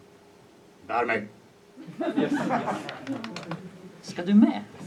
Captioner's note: audience laughs